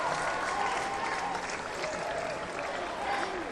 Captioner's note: applause